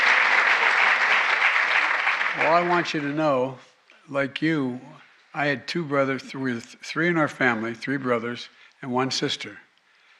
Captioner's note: applause